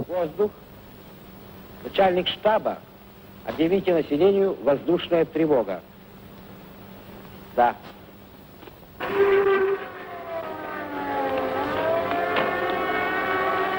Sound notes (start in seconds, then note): 0.1 speaking in foreign language; 9.0 bomb raid siren blaring